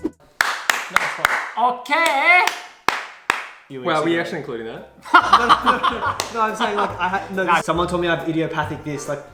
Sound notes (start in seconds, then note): 0.4 claps; 2.8 claps; 5.0 laughs; 6.5 stutters